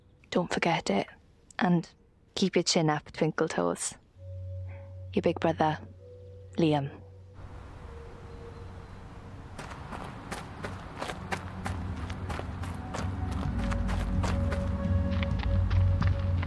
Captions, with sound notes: Don't forget it, and keep your chin up, twinkle toes. Your big brother, Liam. [quick footsteps] [eerie music playing]